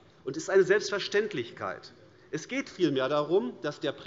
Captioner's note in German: none